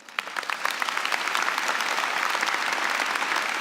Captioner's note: applause